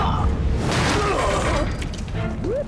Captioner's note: grunting; groaning